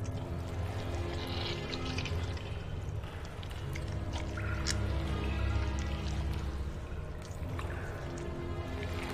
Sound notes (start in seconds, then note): 5.2 squishing